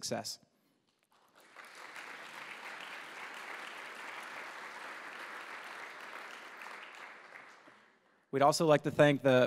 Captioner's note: applause